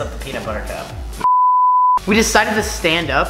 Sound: beeping

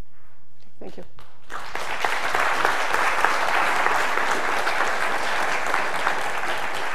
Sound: applause

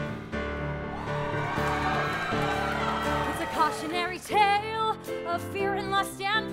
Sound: applause

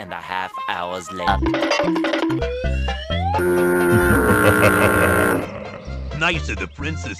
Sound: goofy aah sound effects

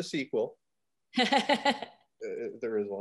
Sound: laughs

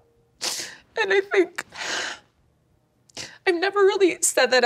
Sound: sighs

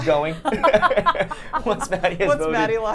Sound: all laughing

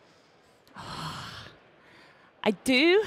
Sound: sighs

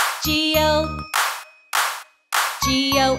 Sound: clapping

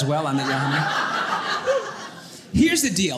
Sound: audience laughing

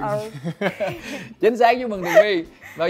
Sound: laugh

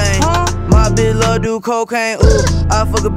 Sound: brr

